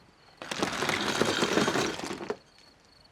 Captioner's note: ice clunking